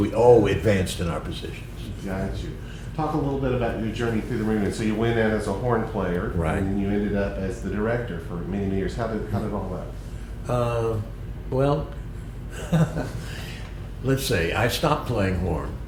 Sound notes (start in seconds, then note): 12.5 laughter